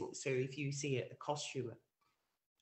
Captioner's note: none